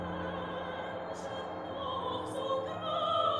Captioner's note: none